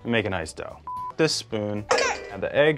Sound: beeps

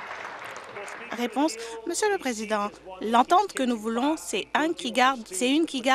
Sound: applause

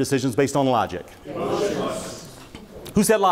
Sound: audience speaks in unison

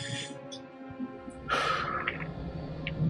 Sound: Musky sighs

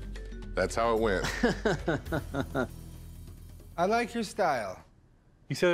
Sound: laughs

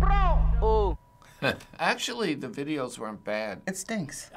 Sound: chuckles

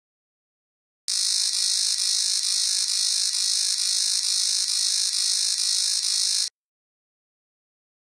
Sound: sound of electric fence alert

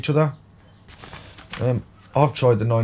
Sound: silence and paper shuffling

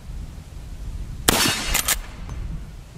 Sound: gun fires

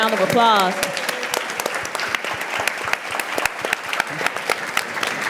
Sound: audience applauds

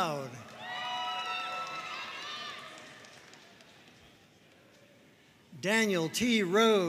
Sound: audience cheering and applauding

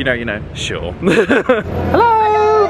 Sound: laughs

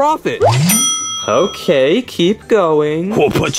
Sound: cash register dings

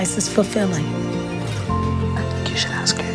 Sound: whispering

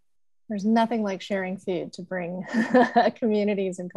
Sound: chuckles

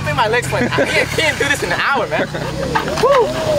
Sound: man laughing

